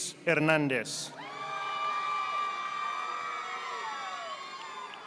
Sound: audience applauding

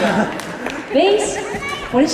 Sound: laughter

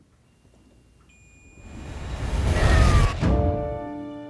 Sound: high-pitched long beep

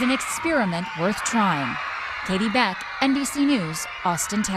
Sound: cheers

